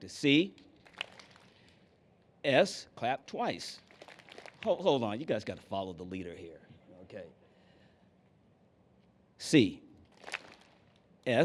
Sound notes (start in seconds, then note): 0.5 clap; 3.7 clapping; 10.1 clap